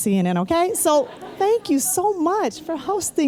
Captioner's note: laughter